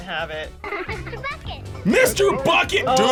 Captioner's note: girl laughing